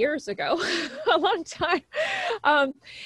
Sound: laughs

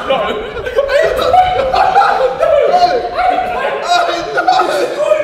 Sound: group laughs

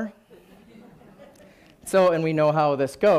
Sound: laughing

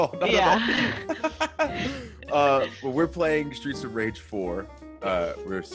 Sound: laugh

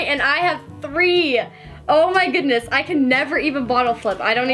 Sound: none

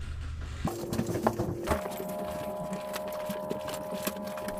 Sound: audio whirring

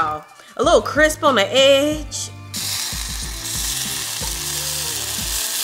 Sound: pan sizzling

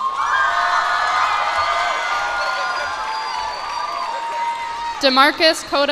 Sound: cheers and applause

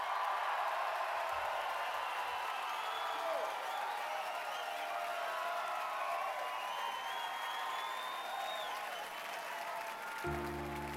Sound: cheers and applause

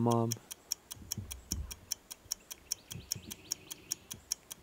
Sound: ticking clock

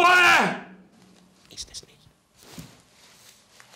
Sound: whispering: it is not

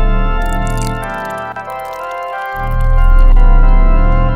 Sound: spurting; church orchestra music

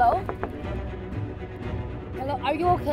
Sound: glass knocking

